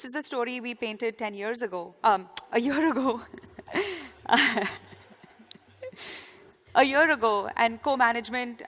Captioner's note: laughter